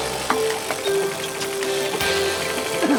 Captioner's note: laughter